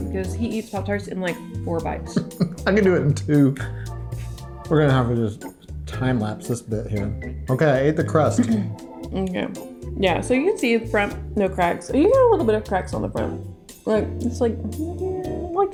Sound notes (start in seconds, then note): 2.1 chuckling